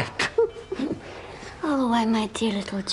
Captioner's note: <i> giggling</i>